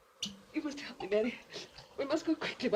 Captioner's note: cork pops; sobbing